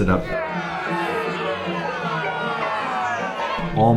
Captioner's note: booing sfx